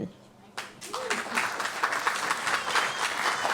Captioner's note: applause